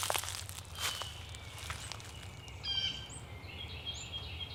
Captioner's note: birds chirping